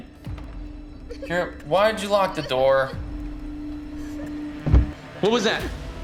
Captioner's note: Kira sobbing; object thumps